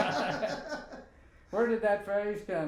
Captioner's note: both laughing